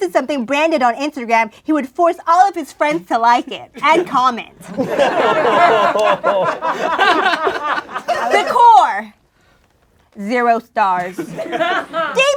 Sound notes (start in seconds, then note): 3.7 laughing